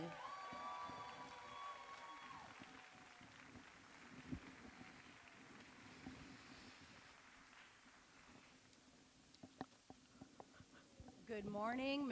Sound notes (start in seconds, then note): 2.7 ~cheers and applause~